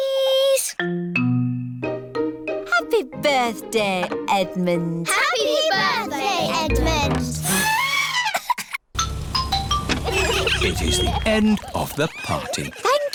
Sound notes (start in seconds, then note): 8.1 trumpets; 8.9 horns honking